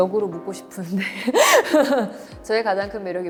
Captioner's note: laughs